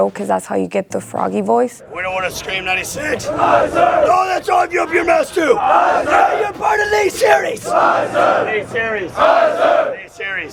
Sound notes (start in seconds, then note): 4.3 yelling